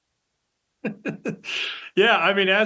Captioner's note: laughs